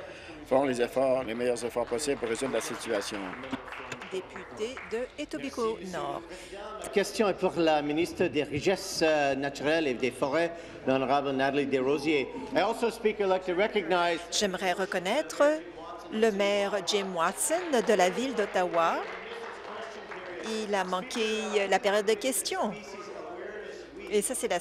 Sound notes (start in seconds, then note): 8.7 speaking in French